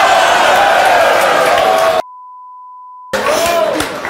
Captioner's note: beep